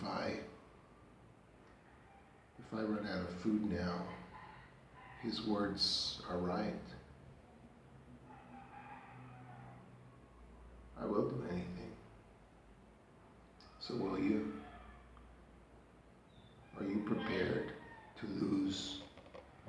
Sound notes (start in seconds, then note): 0.0 roosters crowing; 8.2 roosters crowing; 16.4 daddy, roosters crowing